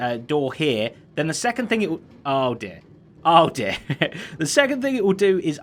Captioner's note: chuckles